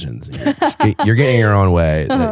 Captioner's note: laughing